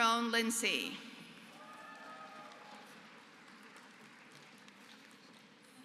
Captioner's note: applause